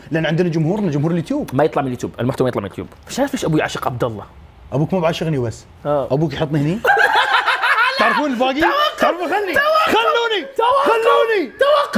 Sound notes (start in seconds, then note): 6.8 laughing